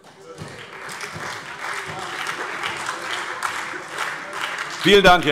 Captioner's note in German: Beifall Freie Demokraten und SPD